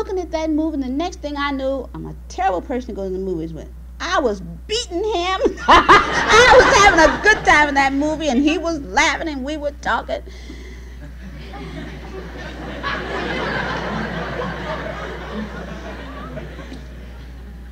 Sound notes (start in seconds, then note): 5.1 laughs; 11.0 laughter from the audience